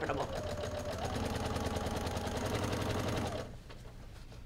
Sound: machine whirs

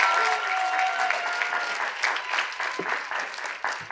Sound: cheers and applause

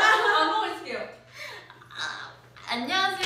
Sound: breathing

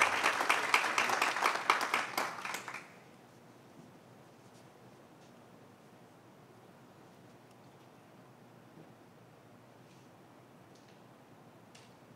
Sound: applause

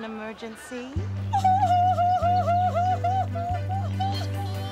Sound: sobbing

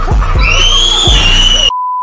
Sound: screams

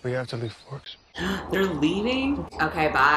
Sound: gasps

